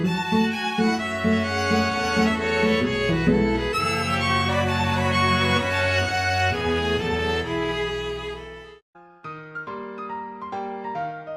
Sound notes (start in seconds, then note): 7.2 the neurrrrrrrr pitch slidey thing